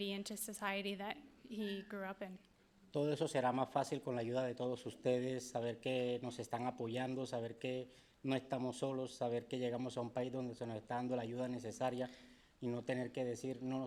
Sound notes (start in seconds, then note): 3.1 speaking in foreign language